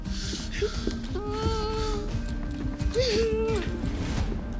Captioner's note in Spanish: Sollozos